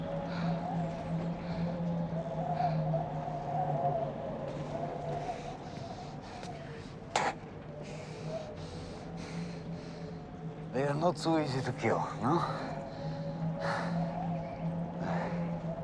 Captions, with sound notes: (Teplov spits) - They are not so easy to kill, no? (Teplov panting)